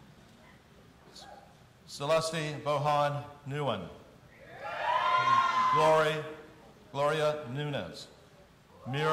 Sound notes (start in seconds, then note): 4.4 audience cheering